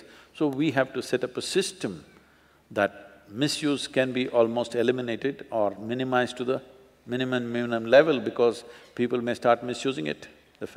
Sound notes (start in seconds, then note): none